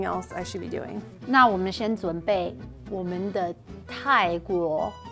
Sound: speaking in mandarin

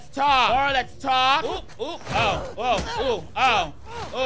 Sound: Ellie grunting

